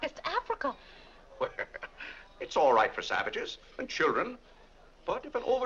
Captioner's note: laughs